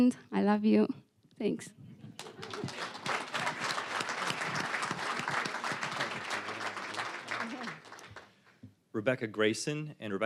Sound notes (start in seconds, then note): 2.1 applause